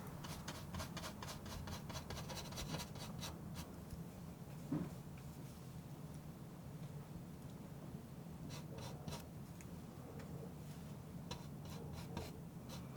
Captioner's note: scratching